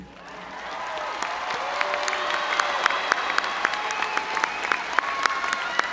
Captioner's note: audience cheering and applauding